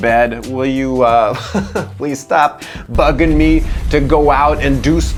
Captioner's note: laughs